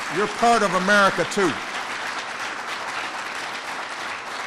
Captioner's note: applause